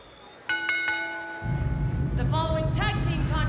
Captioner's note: bell rings